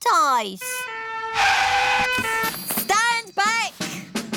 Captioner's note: siren blaring